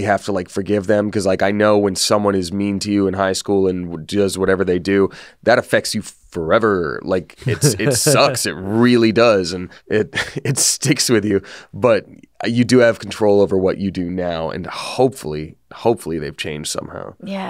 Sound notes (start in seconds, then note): 7.4 laughs